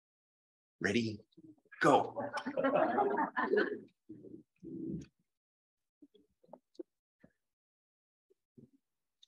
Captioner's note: laughter